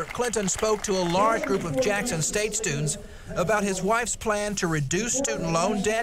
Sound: applause

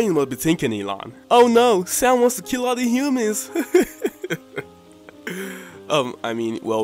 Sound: laughs

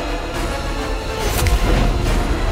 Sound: clicks finger

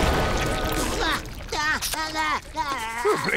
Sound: exploding; shrieking

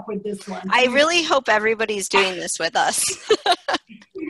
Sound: laughter

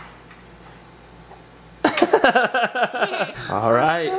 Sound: laugh

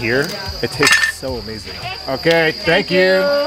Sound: people chattering

